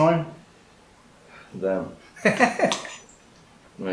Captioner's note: laughs